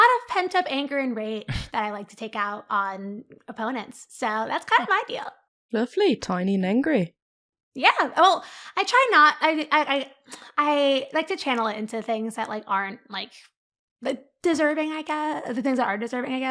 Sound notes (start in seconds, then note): 9.5 stutters